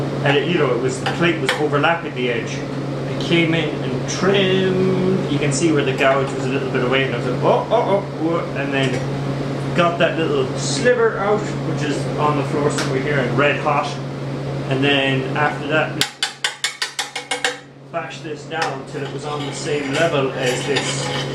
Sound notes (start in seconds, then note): 16.0 tapping